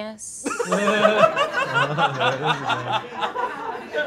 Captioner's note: all laughing